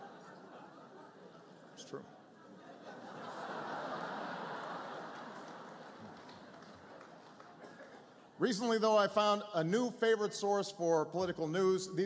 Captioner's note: laughter; laughter